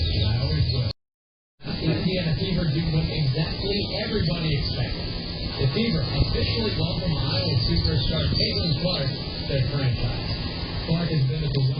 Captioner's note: "21Alive News at 11" plays in background